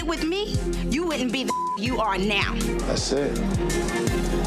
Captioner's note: beep